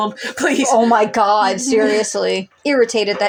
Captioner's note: chuckle